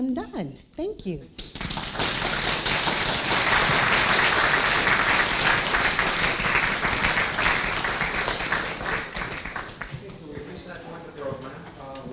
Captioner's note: applause